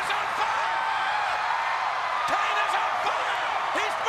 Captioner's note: Jerry screams